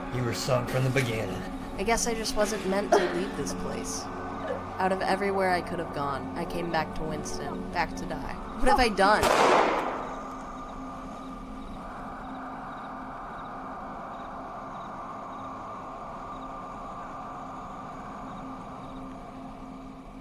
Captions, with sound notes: You were sunk from the beginning. - I guess I just wasn't meant to leave this place. Out of everywhere I could have gone, I came back to Winston, back to die. What have I done? (gun firing) (insects chirping) (intense music)